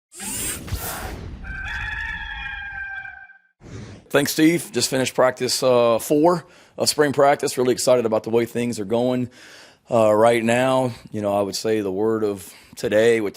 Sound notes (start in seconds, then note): 1.4 cock crowing; 1.4 screeching